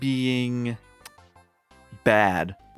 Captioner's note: lip smack